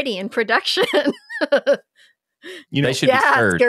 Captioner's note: laughs